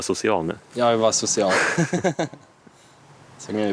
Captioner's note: laughter